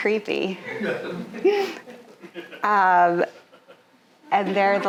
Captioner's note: audience laughing